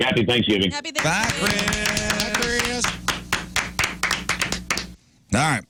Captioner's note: clapping